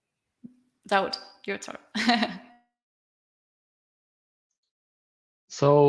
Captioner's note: laughs